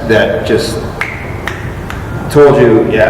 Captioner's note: finger snaps 3x